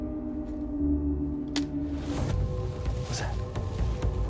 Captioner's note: branches snapping